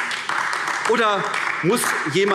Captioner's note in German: Beifall AfD